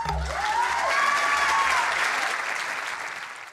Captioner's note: cheering, applause